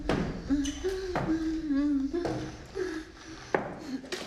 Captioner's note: Michelle crying